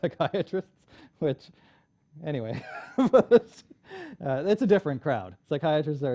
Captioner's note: laughs